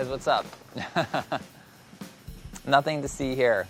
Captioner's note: laughs